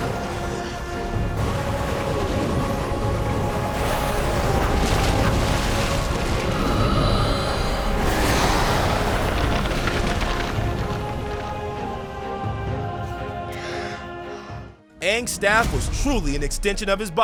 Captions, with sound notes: [inhaling] [blowing] Aang's staff was truly an extension of his body.